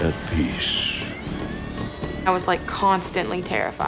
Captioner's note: door creaks